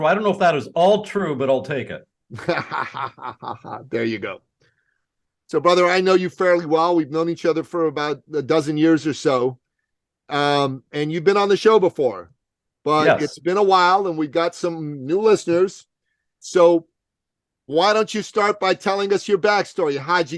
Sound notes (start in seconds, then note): 2.3 laughing